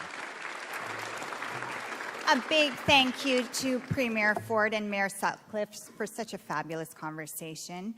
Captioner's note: applause